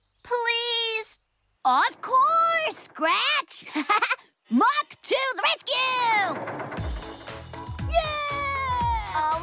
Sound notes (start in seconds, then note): 3.6 laughs